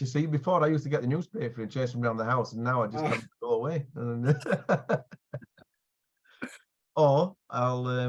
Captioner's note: laughter